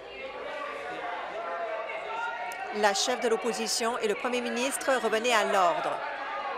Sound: conversation din

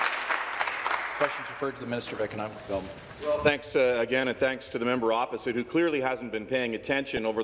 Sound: some Applause

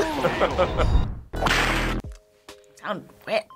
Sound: laughs; whip cracks

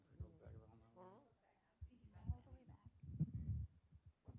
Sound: panelists chatting

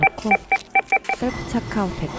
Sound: scanning barcode deep

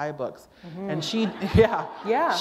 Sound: laughter

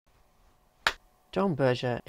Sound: clap

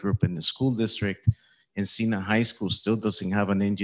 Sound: none

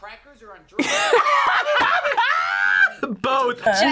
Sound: both laugh

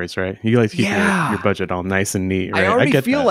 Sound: Ernie sighs

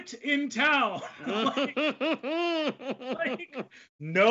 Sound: both laugh

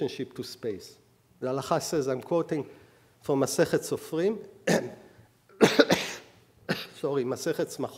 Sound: speaking hebrew

